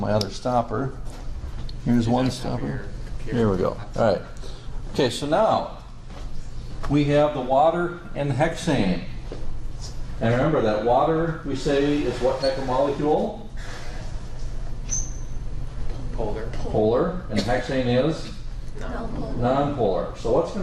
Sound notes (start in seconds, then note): 2.4 background chatter